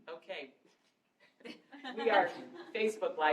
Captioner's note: laughter